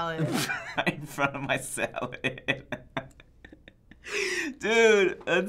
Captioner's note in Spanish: risas